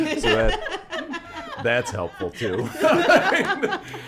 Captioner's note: laughs